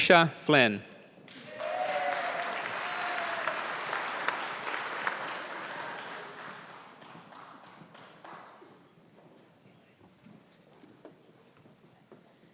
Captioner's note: applause